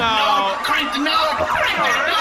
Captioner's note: alarms ring from B-69-420